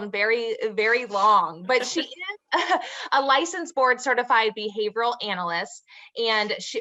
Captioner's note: chuckles